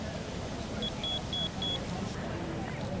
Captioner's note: beeping